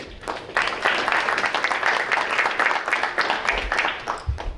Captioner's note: audience applauding